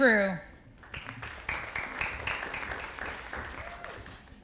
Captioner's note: audience applauding